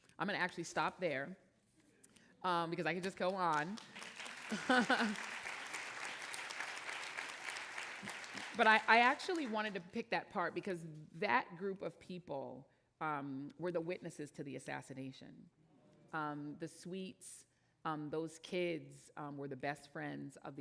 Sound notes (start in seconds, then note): 3.6 audience applauding; 4.4 laughs